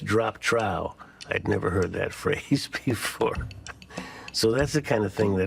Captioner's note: chuckles